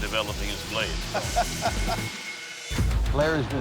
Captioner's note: laughing